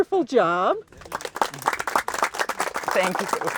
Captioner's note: crowd applauding